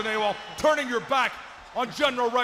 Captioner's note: crowd cheering